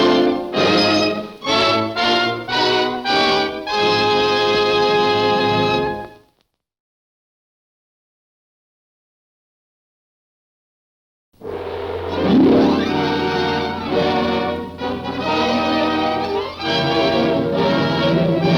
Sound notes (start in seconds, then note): 11.4 gong booms; 11.4 dramatic orchestral music